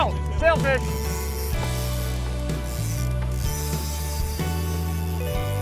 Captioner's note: fishing line whirring